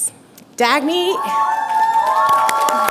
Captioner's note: cheering